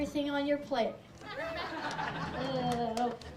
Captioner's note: audience laughs